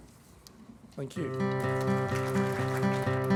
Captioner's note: audience appaluse